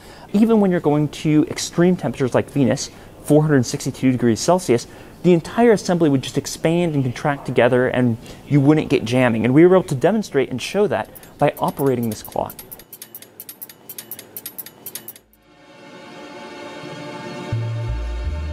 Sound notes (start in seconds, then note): 11.0 clock clicking; 15.4 dramatic music